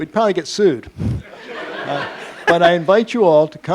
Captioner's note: laughing